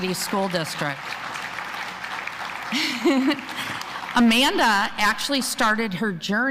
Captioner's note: applause